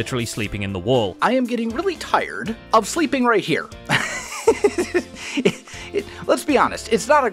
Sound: laughs

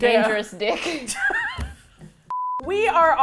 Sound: laughs

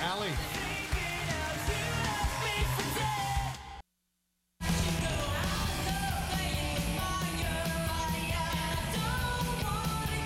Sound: applause

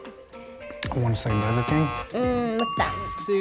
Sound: buzzer; ding

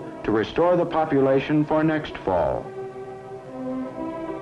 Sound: none

